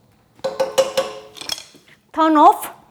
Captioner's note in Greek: ήχος ξυσίματος; ήχος χτυπήματος